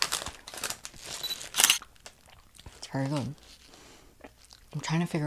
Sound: camera shutter clicks

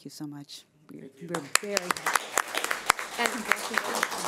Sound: clapping

